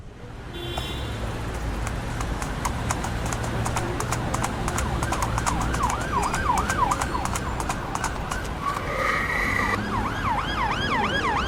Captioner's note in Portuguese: Som de trânsito, buzinas, sirenes de ambulância e patas de cavalo